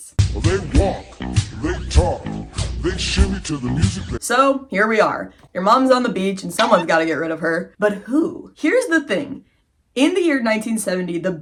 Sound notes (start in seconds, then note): 0.3 funky Music; 6.6 poke sound effect